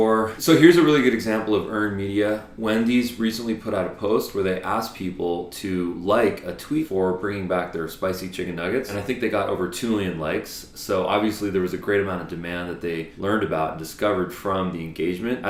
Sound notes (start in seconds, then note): none